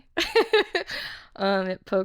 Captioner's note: laughing